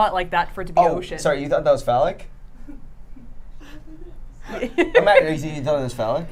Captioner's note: laughs